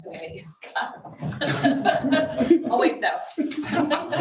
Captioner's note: audience laughs